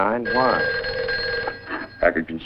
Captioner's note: phone Rings